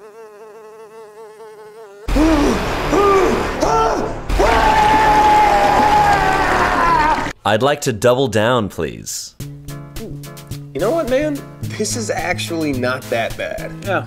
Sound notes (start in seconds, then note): 0.0 fly buzzing; 2.3 groaning and grunting; 2.3 poop squelching